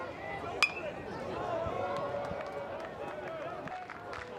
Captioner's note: bat dings